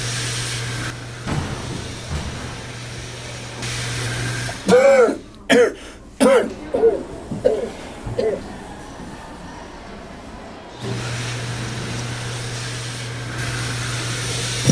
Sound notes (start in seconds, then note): 1.0 hand dryer sound; 4.4 coughing; 10.8 hand dryer sound